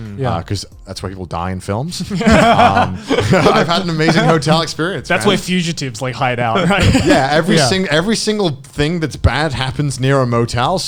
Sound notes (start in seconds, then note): 2.1 laughing